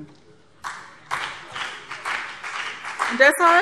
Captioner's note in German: Beifall BÜNDNIS 90/DIE GRÜNEN